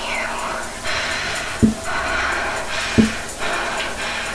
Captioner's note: tapping